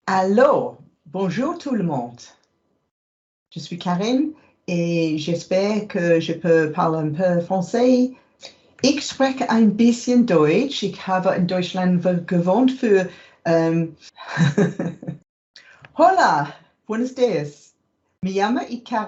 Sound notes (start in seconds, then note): 9.0 speaking German; 14.3 chuckles; 15.9 speaking Spanish